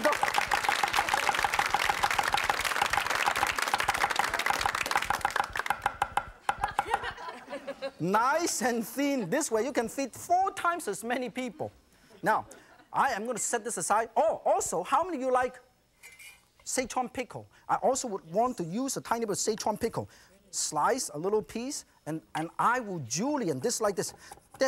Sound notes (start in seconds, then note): 2.9 audience claps; 5.1 knife taps rhythmically